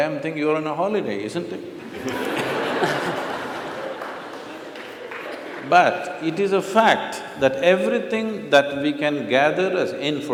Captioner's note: laughter/Applause